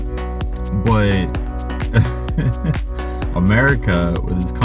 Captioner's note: chuckles